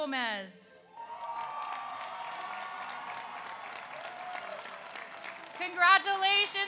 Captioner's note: audience cheers; audience applauds